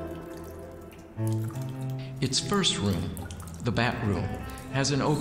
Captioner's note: water dripping; voice sounds echoey